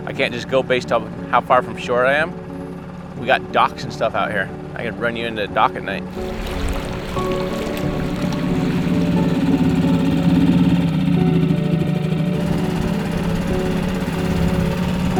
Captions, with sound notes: I can't just go based on how far from shore I am. We got docks and stuff out here. I can run you into a dock at night. (soft music) (engine running)